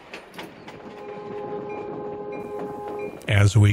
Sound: train horn

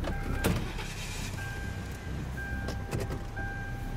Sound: engine whirrs

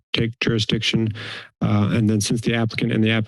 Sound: inhales

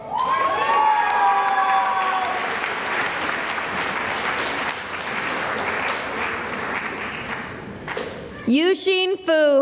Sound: cheering and applause

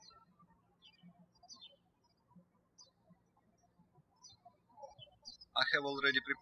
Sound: birds chirping

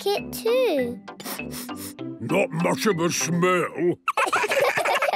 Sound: sniffing; sniffs

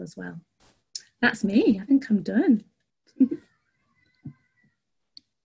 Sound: giggles

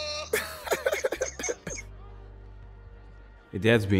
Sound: laughs

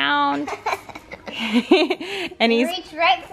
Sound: giggling

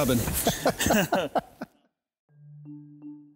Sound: man laughs

